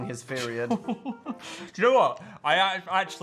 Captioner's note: Phil laughs